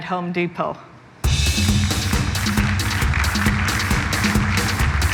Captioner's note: applause